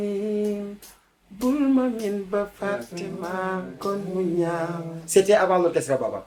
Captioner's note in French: Chant